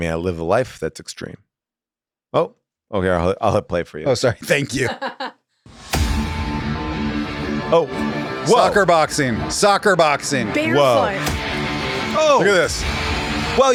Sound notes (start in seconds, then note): 4.4 person laughs; 6.0 rock music